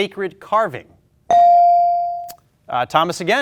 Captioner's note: ding chimes